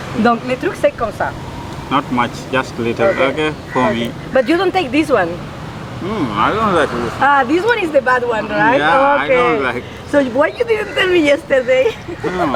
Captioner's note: laughs